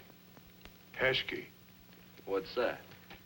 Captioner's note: non-english